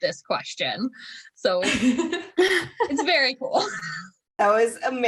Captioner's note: laughter